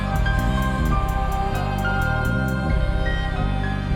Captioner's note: audience cheering